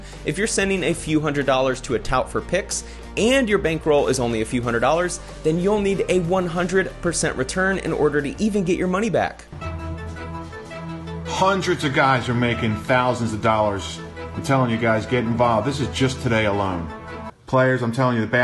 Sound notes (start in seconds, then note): 11.4 male Voice